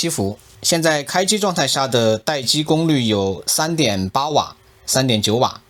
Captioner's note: static